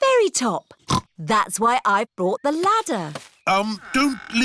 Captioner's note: snorts